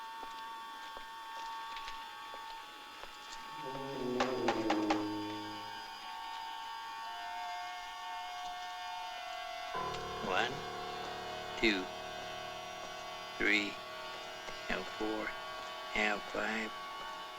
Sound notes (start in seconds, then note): 3.6 knocking